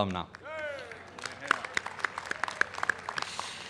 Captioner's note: applause